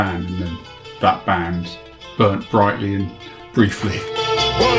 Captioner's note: laughs